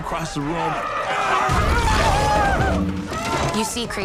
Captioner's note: screaming